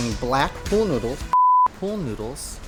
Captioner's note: beeping